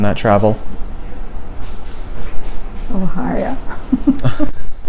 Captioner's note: laughing and crash sound